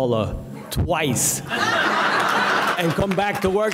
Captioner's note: audience laughing